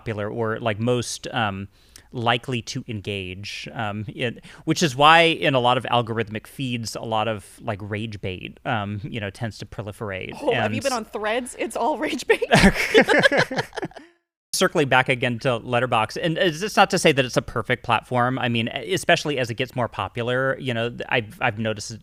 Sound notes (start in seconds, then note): 12.4 both laugh